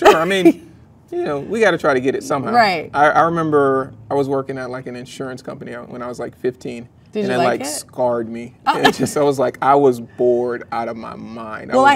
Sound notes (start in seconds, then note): 0.1 laughs; 8.7 laughs